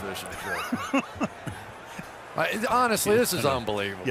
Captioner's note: laughs